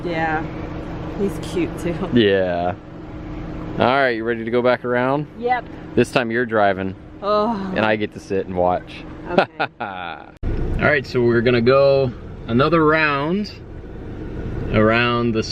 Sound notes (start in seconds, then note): 9.3 laughter